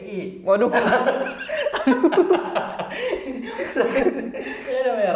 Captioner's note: laughing